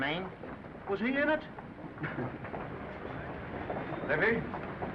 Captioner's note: men chuckling